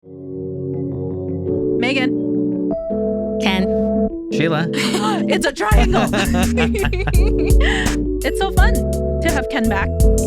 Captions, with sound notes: (Upbeat Music) Maygen. Ken. Sheila. It's a triangle. (Laughing) It's so fun to have Ken back.